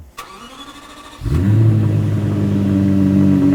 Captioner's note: car revs